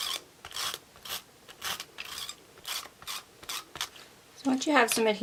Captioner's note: tool scratching